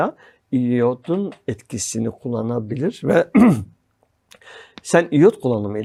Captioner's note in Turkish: boğazını temizler